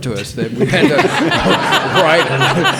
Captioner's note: audience laughs